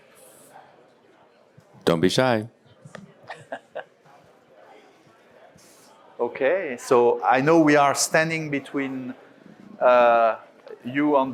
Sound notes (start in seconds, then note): 3.8 moderator laughs